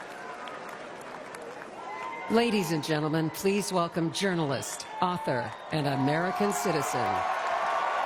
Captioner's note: applause